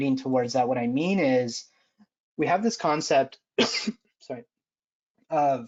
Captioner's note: coughs